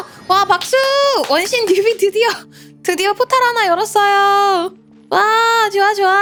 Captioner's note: applause